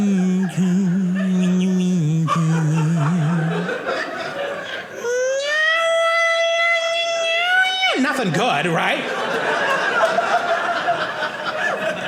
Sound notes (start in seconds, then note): 0.0 mumbling singing; 8.6 audience laughing